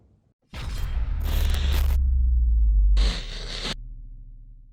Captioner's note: electronic humming